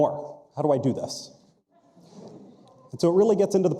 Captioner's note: audience chuckles